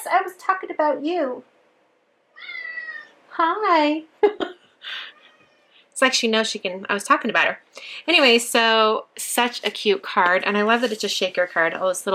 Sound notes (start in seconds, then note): 2.3 cat meowing; 4.2 laughs